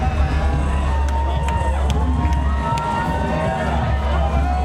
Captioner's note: crowd cheers